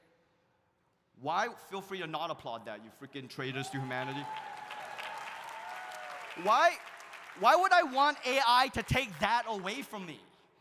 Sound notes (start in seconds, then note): 3.5 audience cheering; 3.6 audience applauding